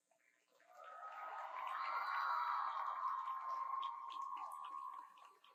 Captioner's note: audience cheers